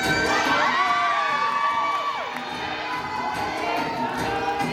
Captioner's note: applause